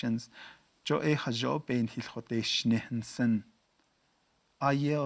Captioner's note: speaking Navajo